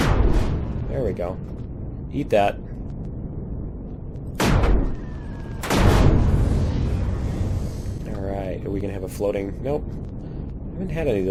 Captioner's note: explosion; explosion